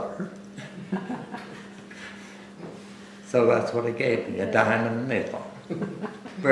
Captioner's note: laughter